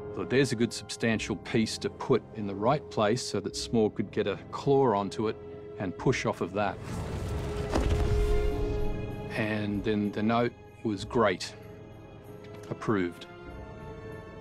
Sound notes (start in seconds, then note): none